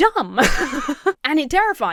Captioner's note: laughs